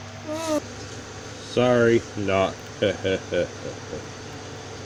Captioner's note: laughing To Himself